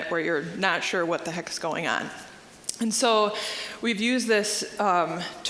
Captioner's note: none